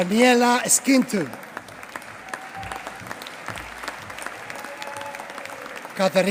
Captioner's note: applause